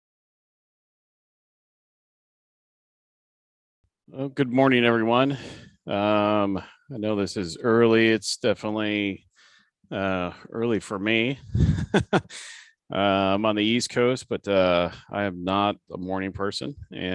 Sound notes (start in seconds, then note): 11.4 laughs